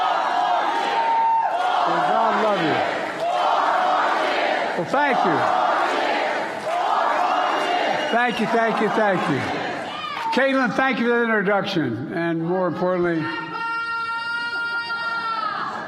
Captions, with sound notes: [APPLAUSE]. Hello, hello, hello. "Four More Years". "Four More Years". >>>: Okay. Well thank you. [APPLAUSE]. Thank you, thank you, thank you. Kaitlynn thank you for the